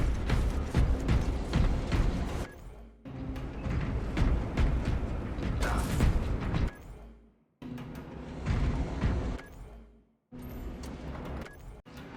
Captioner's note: gunfire